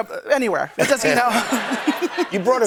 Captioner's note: laughter